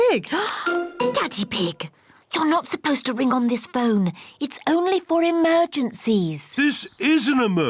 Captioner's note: gasps